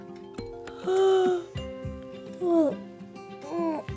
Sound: yawning

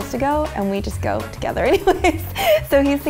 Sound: laughing

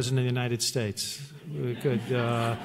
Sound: laughter

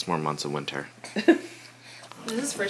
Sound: laughing

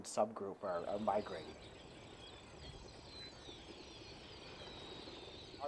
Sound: birds chirping

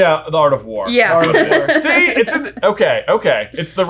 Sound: laughing

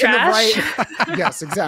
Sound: laughs

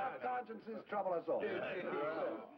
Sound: crowd chattering

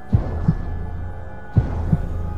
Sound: heartbeat

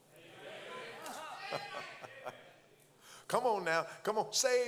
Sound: congregants call out; pastor chuckles

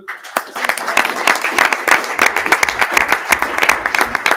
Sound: audience applauding

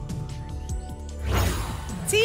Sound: whoosh

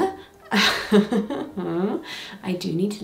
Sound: chuckling

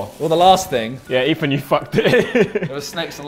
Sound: laughs

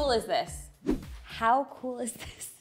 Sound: zooming sound effect

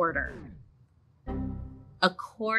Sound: error alert chimes

